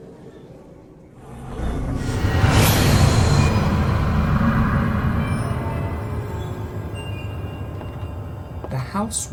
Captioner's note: rising drone